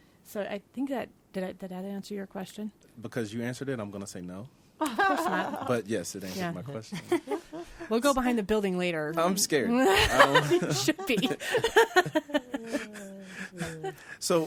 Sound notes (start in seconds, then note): 9.8 all laughing; 11.9 she laughs